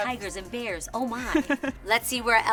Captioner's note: laughs